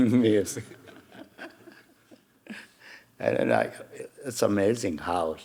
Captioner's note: Hiroshi chuckling; audience chuckling